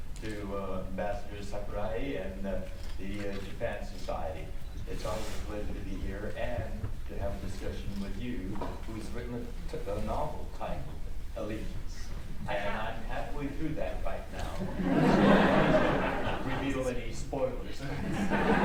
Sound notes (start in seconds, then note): 14.6 audience laughs; 17.8 laughs